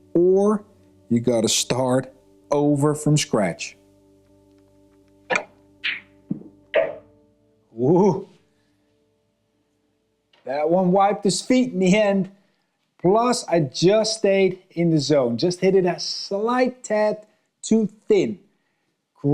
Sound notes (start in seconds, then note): 5.5 balls clanging